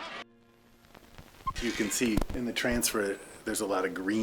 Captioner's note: screen beeping